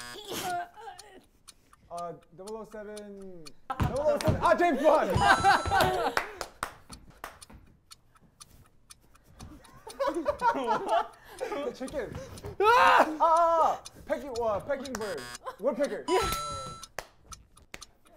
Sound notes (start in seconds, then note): 4.6 laughter; 9.6 more laughter; 12.6 screams